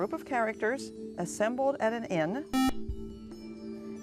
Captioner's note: buzzer